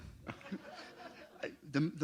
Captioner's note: laughter